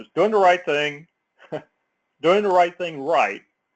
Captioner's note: laugh